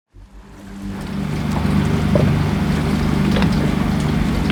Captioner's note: water laps